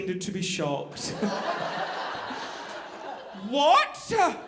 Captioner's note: audience laughing